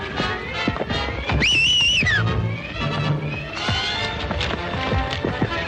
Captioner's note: ranch hand whistles